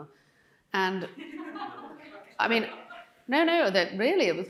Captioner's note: audience laughing